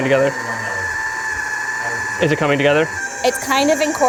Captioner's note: food processor whirs